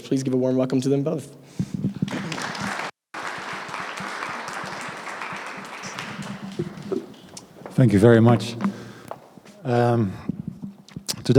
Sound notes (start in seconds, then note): 2.0 applause